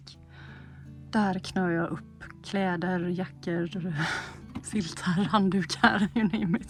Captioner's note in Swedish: skratt